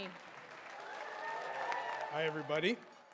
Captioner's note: audience applause